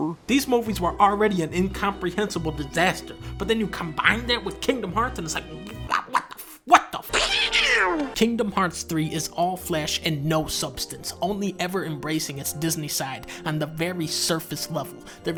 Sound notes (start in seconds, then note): 7.1 Donald duck scream desperately